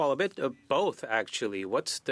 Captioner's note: speaking in French